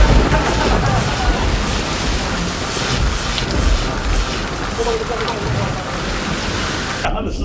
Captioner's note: crying